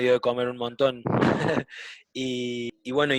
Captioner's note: laughs